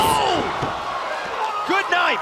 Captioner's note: cheers & applause